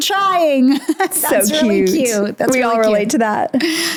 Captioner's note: laughs